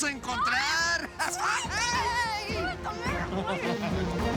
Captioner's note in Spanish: gritos